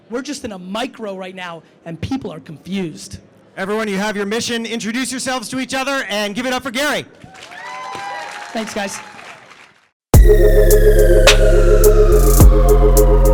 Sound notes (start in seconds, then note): 7.3 audience applauds; 10.1 relaxed music